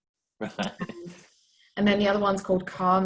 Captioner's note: laughs